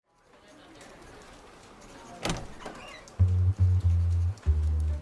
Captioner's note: crowd noise, door creaks open; light jazz